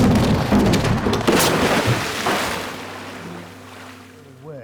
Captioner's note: ramp rumbling; splashing